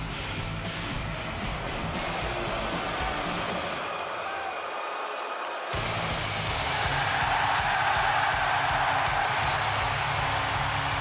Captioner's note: crowd cheering